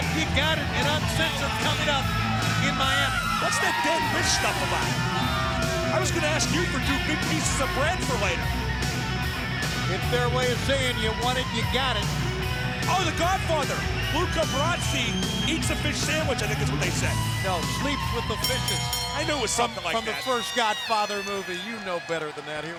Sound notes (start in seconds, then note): 18.3 bell dinging